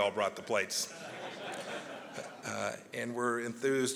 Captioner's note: laughter